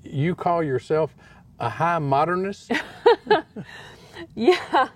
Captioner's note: laughter